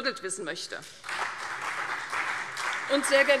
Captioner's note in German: Beifall CDU und Freie Demokraten